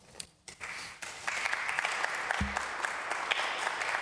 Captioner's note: applause